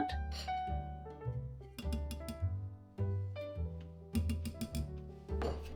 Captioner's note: more gentle taps against blender edge